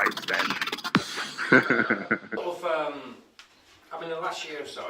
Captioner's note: laughs